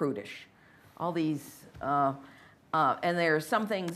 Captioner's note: stammers